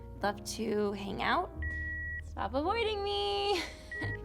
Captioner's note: line beeps; chuckles; line beeps